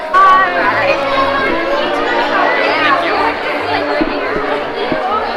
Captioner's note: crowd bustling